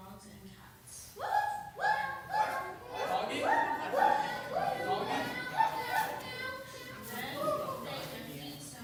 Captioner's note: animal noises, laughter